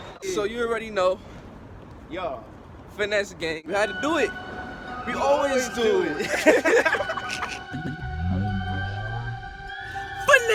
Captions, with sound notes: So you already know, Finesse gang. We had to do it. We always do. (laughing)